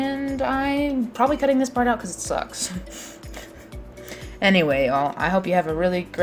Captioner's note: laughs